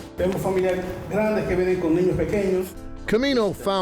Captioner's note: interpreter speaking in Spanish